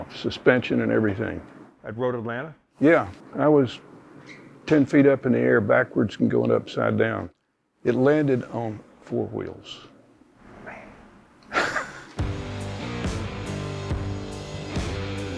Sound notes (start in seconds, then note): 9.8 laughs; 12.5 upbeat music